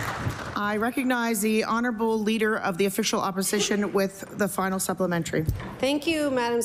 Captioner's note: applause